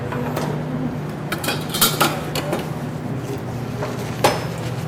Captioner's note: clattering